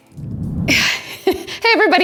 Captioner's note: chuckles